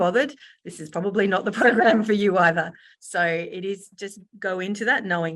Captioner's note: laughs